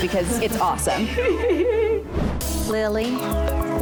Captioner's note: laughing